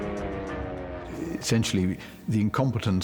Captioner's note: airplane drones